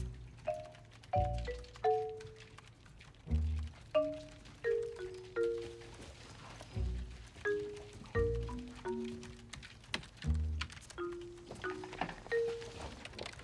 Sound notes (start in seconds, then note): none